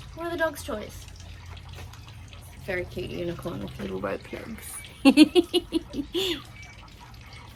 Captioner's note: giggles